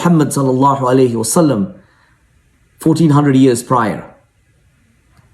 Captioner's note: speaking in foreign language